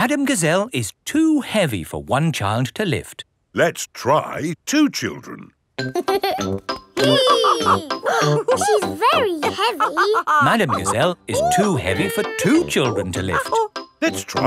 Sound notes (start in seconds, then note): 7.0 both straining; 7.0 giggles; 7.0 madam gazelle laughing